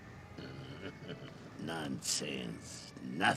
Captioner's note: chuckles evilly